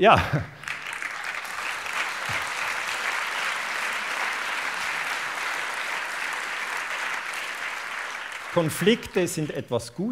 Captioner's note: applause